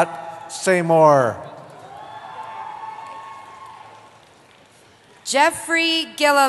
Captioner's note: cheering